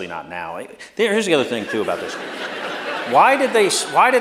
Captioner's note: laughter